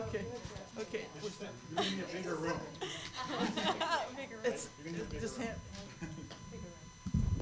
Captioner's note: laughter